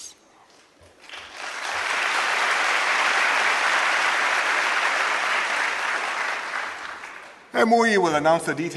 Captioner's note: applause